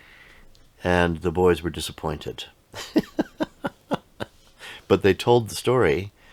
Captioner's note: laughs